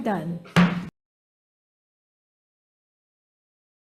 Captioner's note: hammering gavel